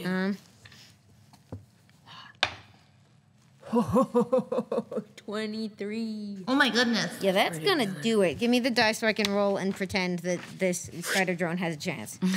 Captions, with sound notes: - (chuckles) 23. - Oh my goodness. - Yeah, that's gonna do it. Give me the dice so I can roll and pretend that this spider drone has a chance.